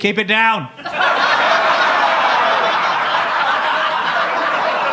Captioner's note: audience laughs